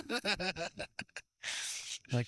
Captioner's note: laughing